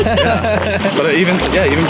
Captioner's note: laughing